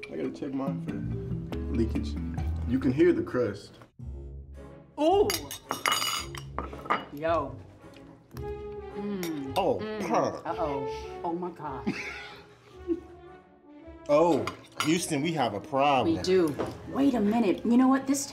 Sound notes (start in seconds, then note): 4.1 slow playful music; 12.8 laughs